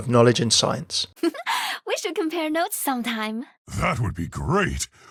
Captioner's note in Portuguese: risada fofa